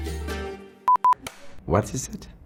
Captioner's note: electronic beeps; clapper board snaps